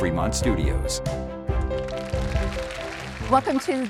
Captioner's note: audience applauding